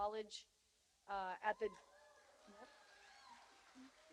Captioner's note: cheers and applause